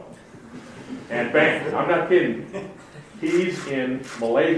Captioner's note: audience laughs